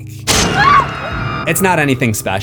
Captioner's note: screams